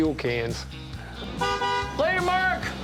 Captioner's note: horn honking